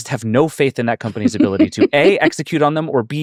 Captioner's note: laughing